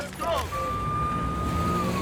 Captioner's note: police sirens wailing